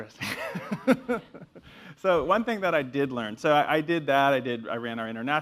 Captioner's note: laugh